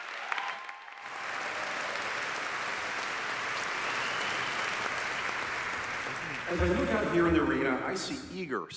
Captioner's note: applause